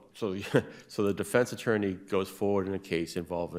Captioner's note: laughs